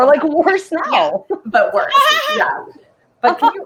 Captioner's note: laughs